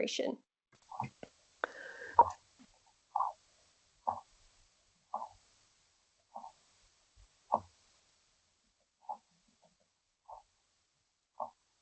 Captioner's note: gentle drumming noise as the fiddler crab hits its claw on the ground